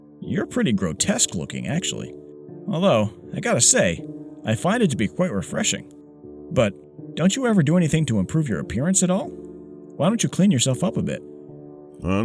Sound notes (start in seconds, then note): none